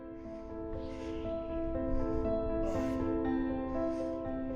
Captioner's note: gentle music; wind whistling